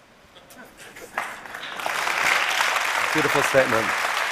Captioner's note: applause